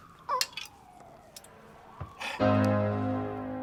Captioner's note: groans; police sirens